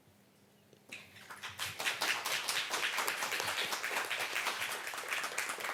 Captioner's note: applause